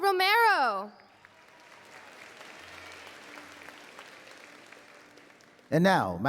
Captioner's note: applause